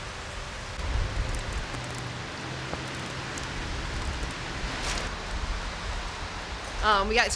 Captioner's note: rain pouring; soft music